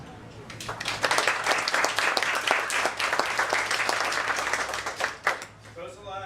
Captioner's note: applause